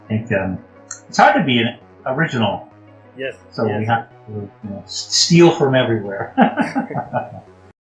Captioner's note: Risas